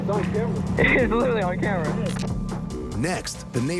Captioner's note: laughs